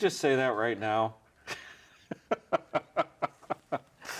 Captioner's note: laughing